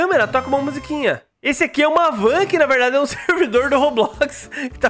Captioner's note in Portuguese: risos